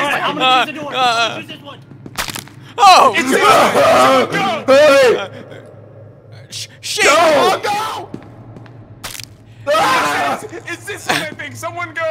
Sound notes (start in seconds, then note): 3.2 more panicking; 9.6 scream of panic